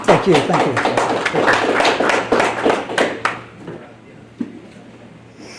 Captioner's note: audience applauds